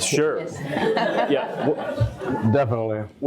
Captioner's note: audience laughs